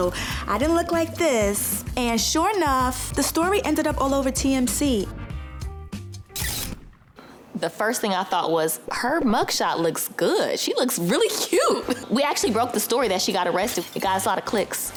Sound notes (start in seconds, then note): 7.8 camera flashes; 7.8 funky music